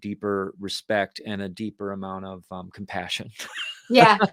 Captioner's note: laughs